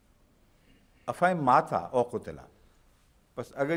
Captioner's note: Arabic